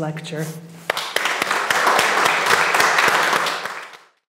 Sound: audience applause

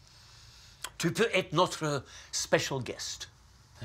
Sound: speaks foreign phrase

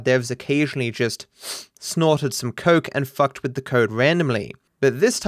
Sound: sniffs

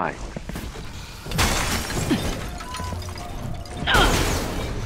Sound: glass breaking

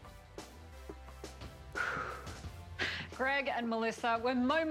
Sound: exhaling

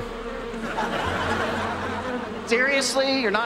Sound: buzzing

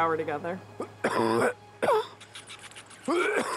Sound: coughs; chittering noise

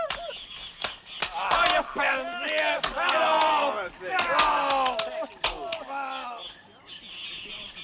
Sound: jeering

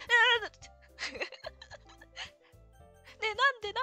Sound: laughs

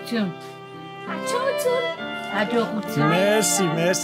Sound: in Armenian

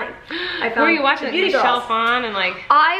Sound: gasps

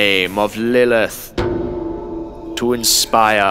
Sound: bell tolls

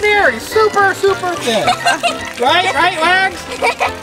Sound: laughing

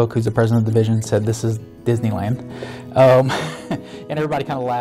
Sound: chuckling

